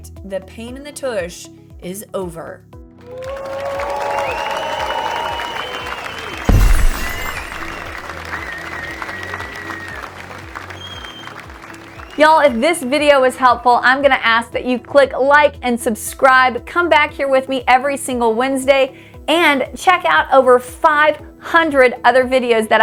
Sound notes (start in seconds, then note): 3.0 applause; 6.4 glass breaks